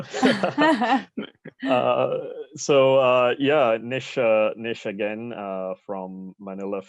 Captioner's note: laugh